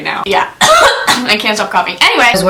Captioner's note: coughs